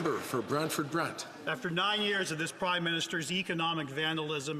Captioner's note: some Applause